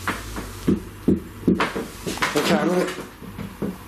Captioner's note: knocking